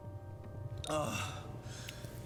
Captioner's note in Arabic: تنهدات